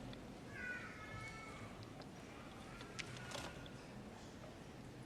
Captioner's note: audience chattering